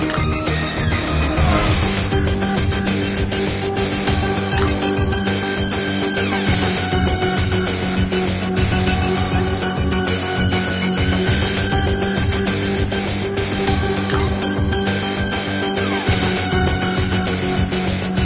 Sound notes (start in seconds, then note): 12.2 signal disconnected